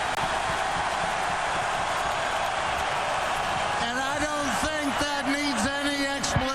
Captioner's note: cheering and applause